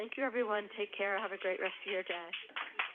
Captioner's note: applause